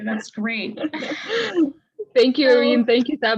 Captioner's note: laughing